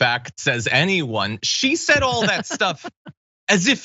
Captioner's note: laugh